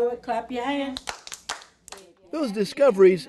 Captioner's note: hands clapping